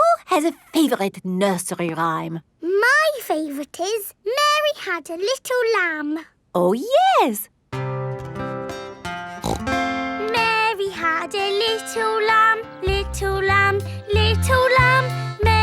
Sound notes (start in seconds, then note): 7.7 playing guitar; 9.4 snorts